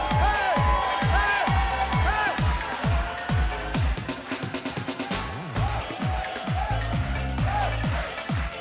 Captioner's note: cheers and applause